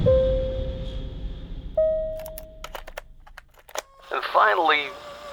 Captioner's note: bells dinging